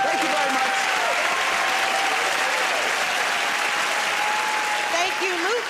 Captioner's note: cheering and applause